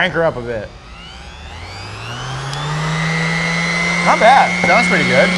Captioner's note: sander whirring